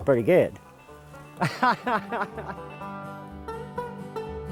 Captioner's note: laughing; upbeat banjo music